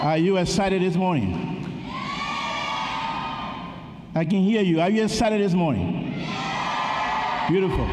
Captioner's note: cheering